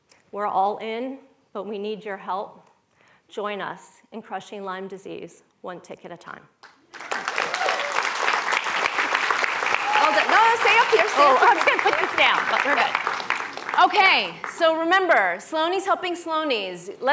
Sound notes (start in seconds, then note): 9.9 applause